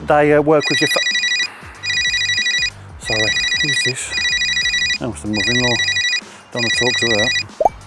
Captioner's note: phone ringing